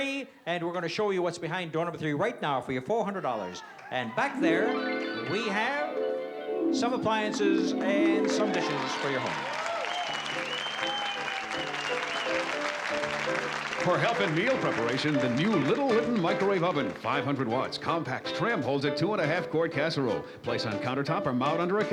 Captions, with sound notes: And we're going to show you what's behind door number three right now for your $400. And back there-- [DREAMY HARP MUSIC] We have some appliances and some dishes for your home. [APPLAUSE] - For help in meal preparation, the new Little Litton microwave oven. 500 watts, compact, trim, holds a two and a half quart casserole. Place on countertop or mount under a cabinet.